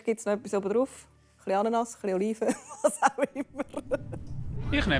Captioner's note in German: Lachend